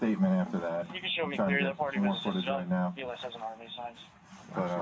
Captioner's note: radio chatter